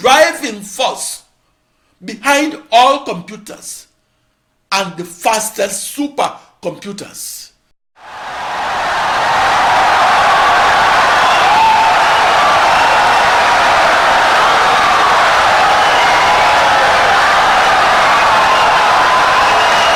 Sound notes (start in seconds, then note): 6.2 wild applause and cheering for 17 seconds